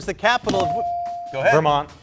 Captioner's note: buzzer dinging